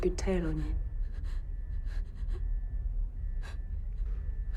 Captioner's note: sobbing